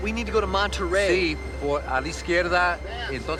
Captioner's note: speaking spanish